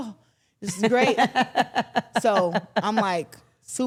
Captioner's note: everyone laughs